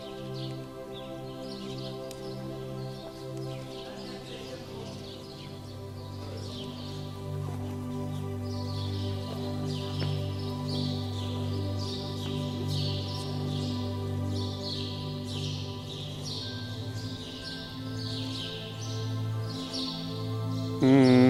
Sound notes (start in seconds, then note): 0.1 birds chirping; 0.1 gentle music continues; 8.4 birds chirping; 8.4 gentle music continues; 17.4 birds chirping; 17.4 tourists chattering